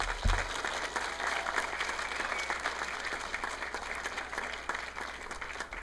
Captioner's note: audience applauding